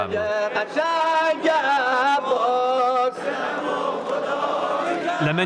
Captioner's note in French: Arabic spoken language